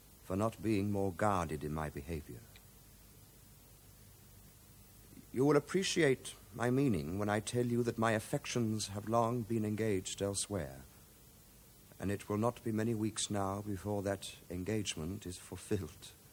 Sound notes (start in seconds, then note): none